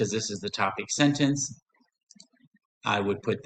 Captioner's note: silence